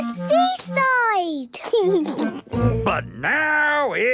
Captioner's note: laughing